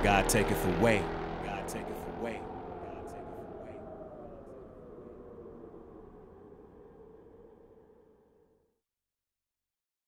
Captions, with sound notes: "God taketh away." (wind whooshing)